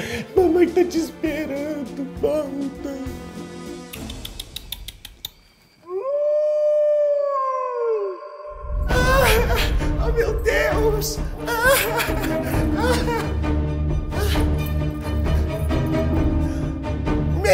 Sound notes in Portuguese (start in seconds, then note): 5.8 uivo; 8.8 chorando; 11.3 choro; 13.3 música de tensão